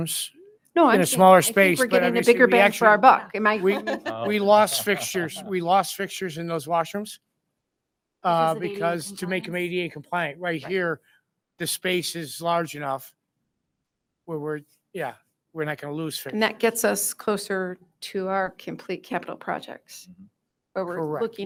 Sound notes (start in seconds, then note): 3.6 board members chuckling